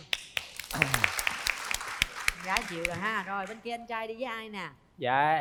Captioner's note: applause